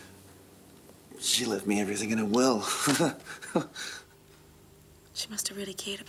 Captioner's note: laughs